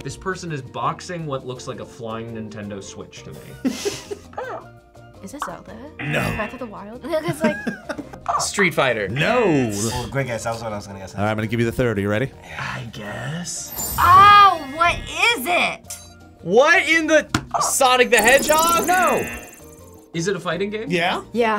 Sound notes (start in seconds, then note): 3.7 React laughs; 6.0 buzzer barks; 7.1 React laughs; 7.5 buzzer barks; 17.1 buzzer barks